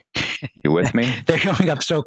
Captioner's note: laughing